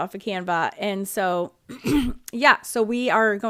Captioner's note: clearing her throat